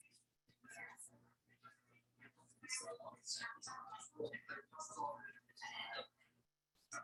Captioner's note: people chattering indistinctly continues